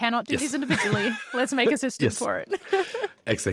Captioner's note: laughs